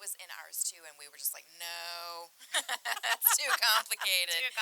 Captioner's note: laughing